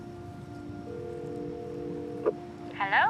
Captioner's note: ringing